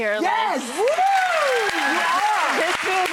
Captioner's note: audience cheering